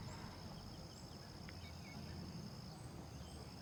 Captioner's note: birds chirping